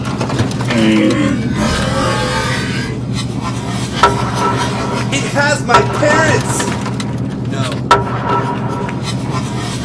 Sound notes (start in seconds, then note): 0.6 groaning